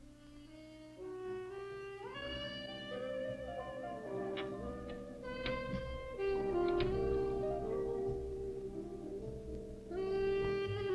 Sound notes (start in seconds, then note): 0.2 gentle music; 4.0 bed squeaking; 8.2 gentle music